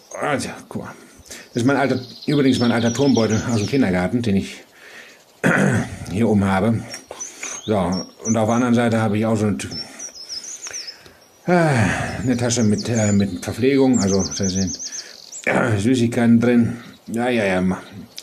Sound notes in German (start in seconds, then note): 5.4 Räuspern; 6.8 Schmatzen; 11.4 Ächzen